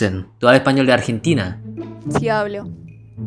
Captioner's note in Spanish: Español